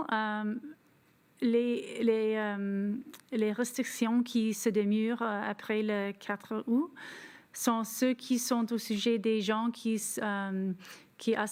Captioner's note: speaking French